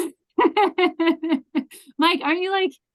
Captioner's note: laughs